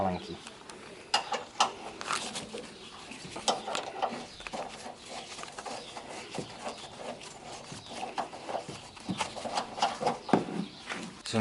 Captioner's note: construction sounds